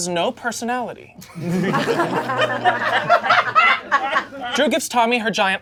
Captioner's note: audience laughing